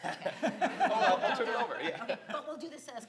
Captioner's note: laughs